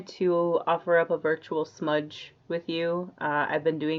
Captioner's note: none